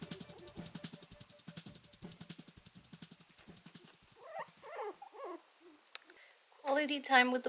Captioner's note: guinea pig sounds